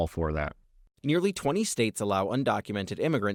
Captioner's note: voice-over